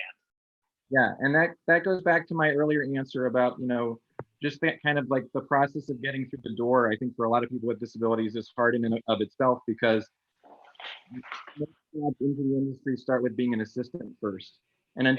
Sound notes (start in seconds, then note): 10.4 Cory's chair creaking; 10.7 speaking muffledly